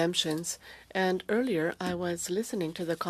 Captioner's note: speaking French